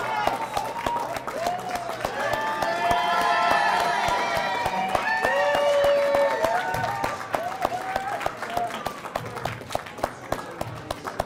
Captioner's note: cheers and applause